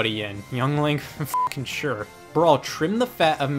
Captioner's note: beep